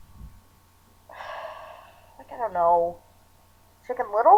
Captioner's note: sighs